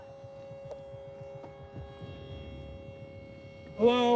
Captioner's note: horn blowing